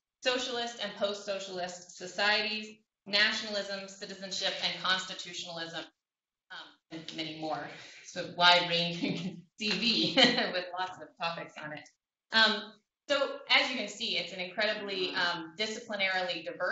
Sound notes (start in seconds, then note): 5.7 laughter